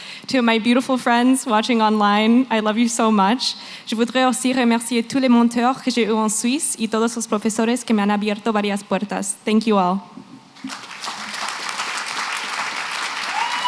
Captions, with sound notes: To my beautiful friends watching online, I love you so much. [NON-ENGLISH]. Thank you all. [APPLAUSE]